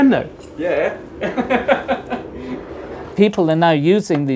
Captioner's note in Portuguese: risos